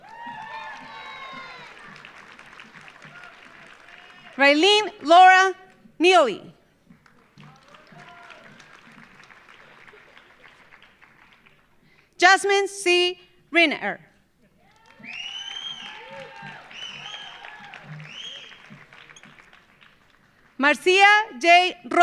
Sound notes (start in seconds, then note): 0.0 audience cheering; 0.0 audience applauding; 7.0 audience applauding; 14.6 audience cheering; 14.6 audience applauding